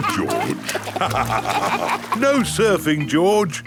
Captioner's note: both laugh